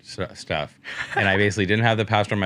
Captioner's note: laughs